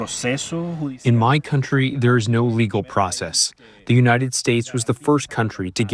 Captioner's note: through translator